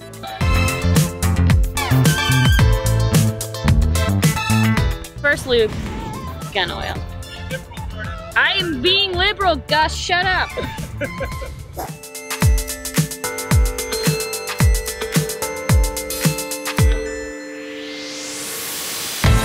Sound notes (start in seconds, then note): 0.3 upbeat music; 10.4 laughing; 12.1 upbeat music